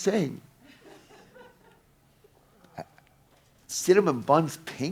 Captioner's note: audience laughing